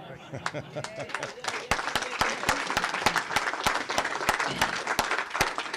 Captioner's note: laughter; applause